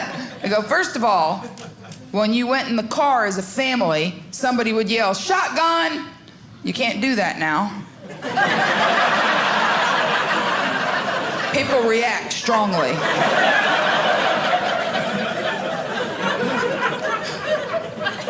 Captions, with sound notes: I go, first of all, when you went in the car as a family, somebody would yell, shotgun. You can't do that now. (audience laughing) People react strongly. (audience laughing)